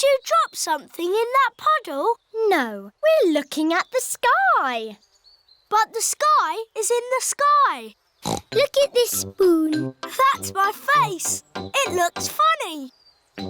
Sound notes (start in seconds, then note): 8.2 snorts